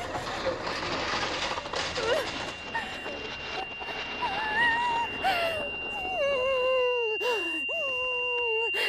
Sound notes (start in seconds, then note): 1.2 bags shuffle; 5.2 Laurel breathes loudly